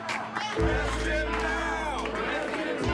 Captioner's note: crowd